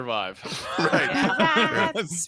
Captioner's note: people laughing